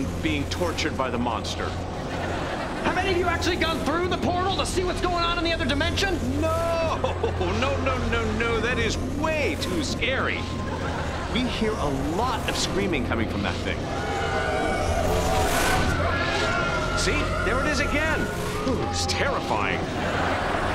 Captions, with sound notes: being tortured by the monster. Have any of you even gone through the portal to see what's going on - in the other dimension? - No! No, no, no, no. That is way too scary We hear a lot of screaming coming from that thing. [howling] See, there it is again. Oh, it's terrifying.